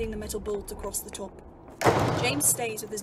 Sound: door slams

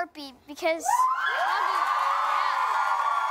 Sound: cheering, applause

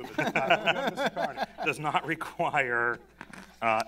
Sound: laughter

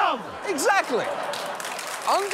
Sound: audience applauds

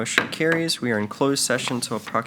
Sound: gavel bangs

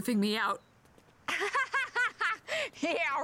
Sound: nervous laugh

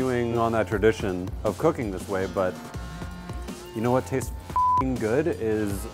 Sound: beep

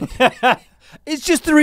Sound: laughs

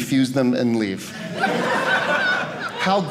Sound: audience laughing

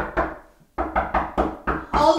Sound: knocking; more knocking

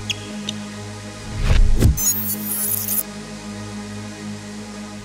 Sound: electronic beeping

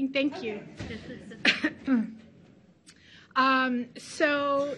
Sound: coughs

